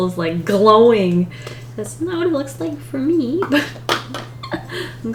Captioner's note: laughs